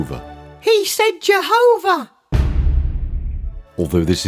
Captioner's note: bang!